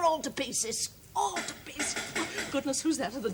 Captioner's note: knock on door